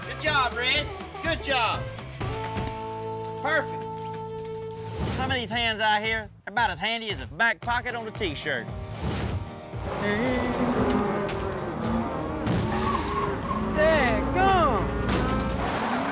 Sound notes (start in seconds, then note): 12.3 tire goes flat; 15.9 mooing